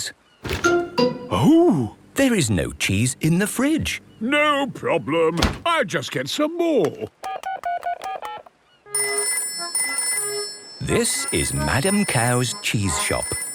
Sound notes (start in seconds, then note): 7.0 dial tone; 8.9 phone rings